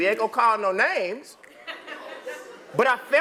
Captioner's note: laugh